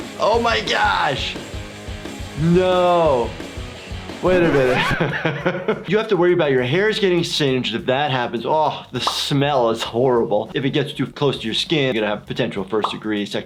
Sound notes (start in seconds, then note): 4.2 record screeching; 4.3 laughing